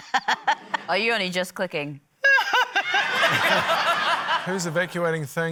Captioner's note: laughter